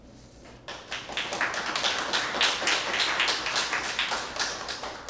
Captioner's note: applause